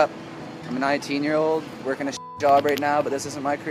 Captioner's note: beep